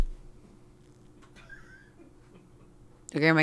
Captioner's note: crew laughs